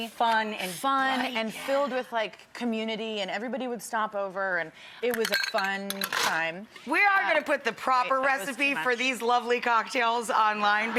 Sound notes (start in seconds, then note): 5.2 ice clinks in glass